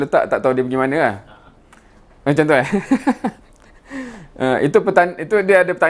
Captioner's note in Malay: ketawa